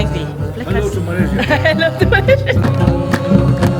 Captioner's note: speaking German; laugh